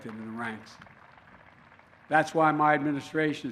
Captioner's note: applause